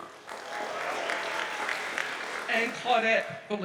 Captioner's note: audience applauds